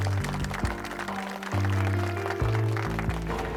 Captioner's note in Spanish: Aplausos